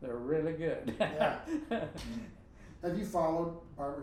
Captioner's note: laughing